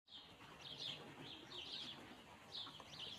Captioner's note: birds chirping